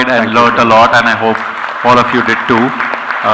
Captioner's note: clapping